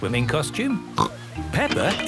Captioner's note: snorts